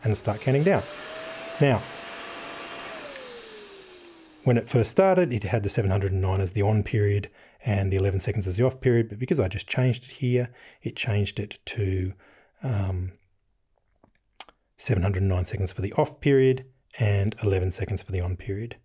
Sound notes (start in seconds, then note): 1.7 fans whirring on; 2.8 click off